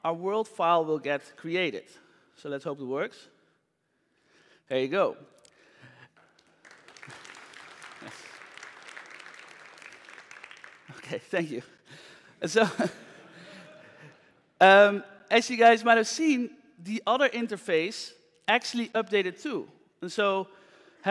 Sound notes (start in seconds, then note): 6.1 applause; 12.6 laughter